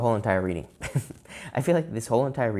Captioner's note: chuckles